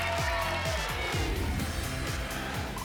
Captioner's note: applause and cheering; whoosh